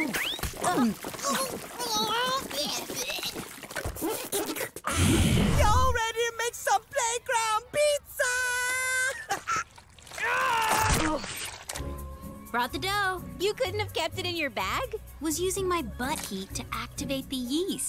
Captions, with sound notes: [gagging] Ah. Y'all ready to make some playground pizza?! [grunting] Brought the dough. You couldn't have kept it in your bag? Was using my butt heat to activate the yeast.